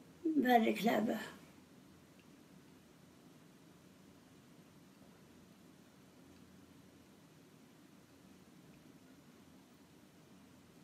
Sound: foreign language

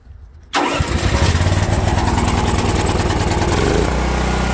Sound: generator rumbling

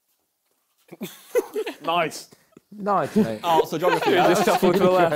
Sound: laughter

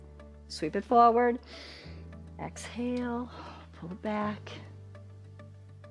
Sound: inhales

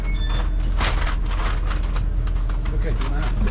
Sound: door chime sounds; rustling luggage

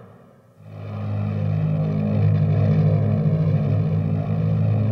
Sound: plane engine roars

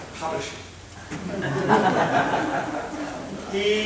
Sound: laughter

